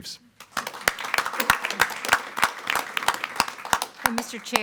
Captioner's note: group clapping